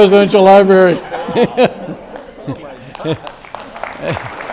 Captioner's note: audience laughs